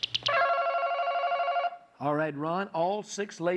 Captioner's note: ringing